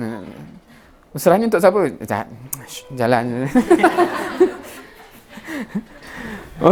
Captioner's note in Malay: ketawa